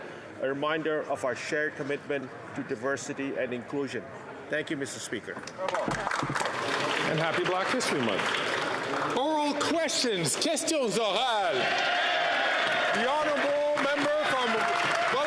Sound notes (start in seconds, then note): 8.5 some Applause